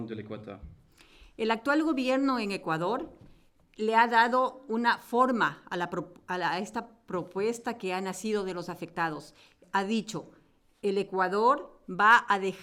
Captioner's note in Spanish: Español